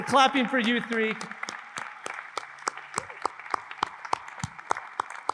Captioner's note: everyone applauds